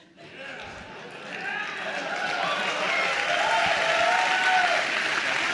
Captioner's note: attendees applauding and cheering